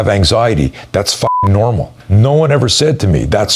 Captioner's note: beep